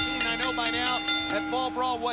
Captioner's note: bell ringing